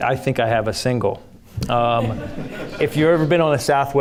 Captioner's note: audience laughing